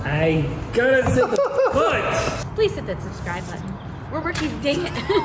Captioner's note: laughter